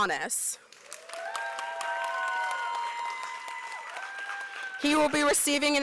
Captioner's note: applause